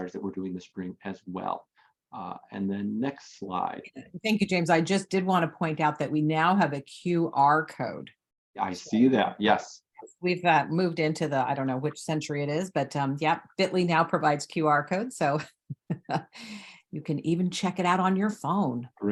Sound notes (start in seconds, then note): 15.7 chuckles